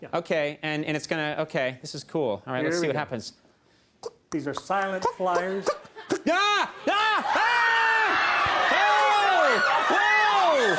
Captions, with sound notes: Okay, and it's going to... Okay, this is cool. Alright, let's see what happens. (Conan clucks) These are silent flyers. (Everyone screams)